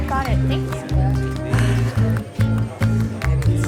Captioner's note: sighs